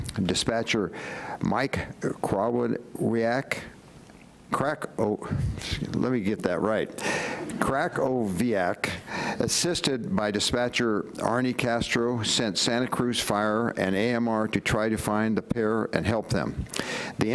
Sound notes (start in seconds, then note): none